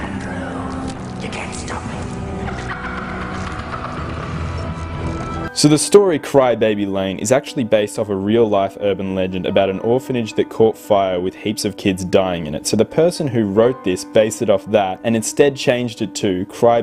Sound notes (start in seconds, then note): 4.6 laughing